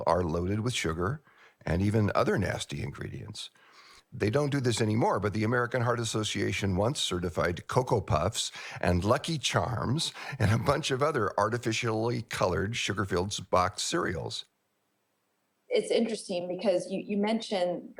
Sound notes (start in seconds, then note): 13.2 laughs